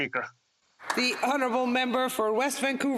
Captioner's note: speaking Alternate Language